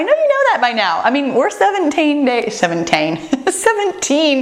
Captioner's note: laughs